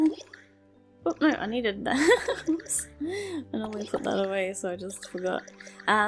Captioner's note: sigh